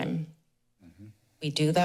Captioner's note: pause